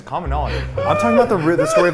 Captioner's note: laughing